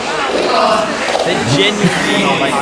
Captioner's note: groans